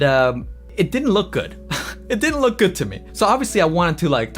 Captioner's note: chuckles